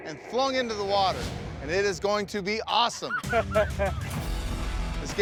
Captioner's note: laughing